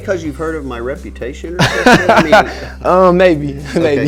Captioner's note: laughing